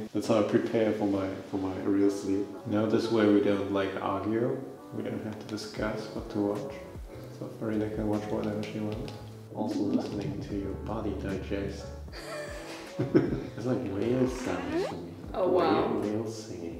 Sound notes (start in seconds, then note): 12.1 laugh